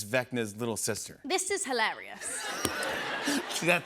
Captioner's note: laughter